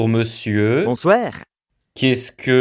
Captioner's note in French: accent belge